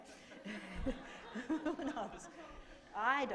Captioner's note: laughter